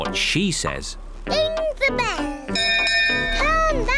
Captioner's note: rings bell